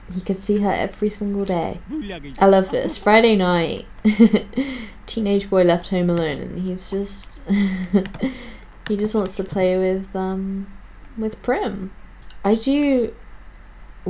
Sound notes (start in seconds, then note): 1.8 laughing